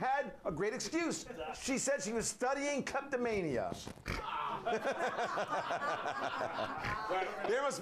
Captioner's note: laughter